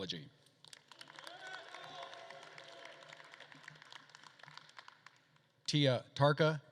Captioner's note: attendees applauding